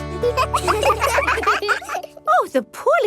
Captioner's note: children laugh